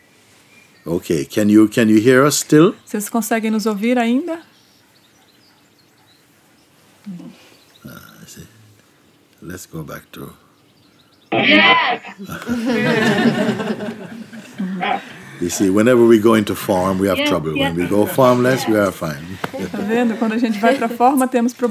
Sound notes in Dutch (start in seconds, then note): 12.2 gelach; 21.4 Mooji spreekt Portugees